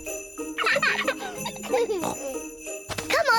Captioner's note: both giggle